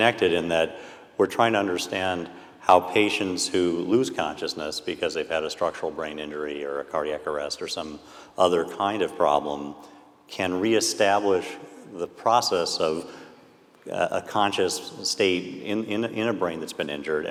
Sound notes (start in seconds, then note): none